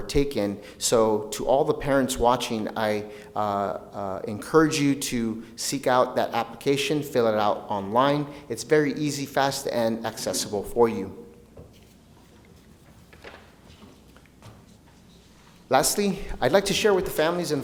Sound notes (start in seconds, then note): none